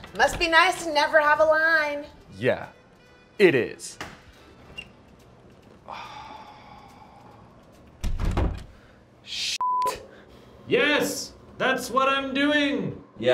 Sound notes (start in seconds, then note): 5.8 long heavy sigh; 9.6 beep